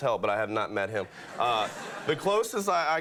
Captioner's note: audience laughing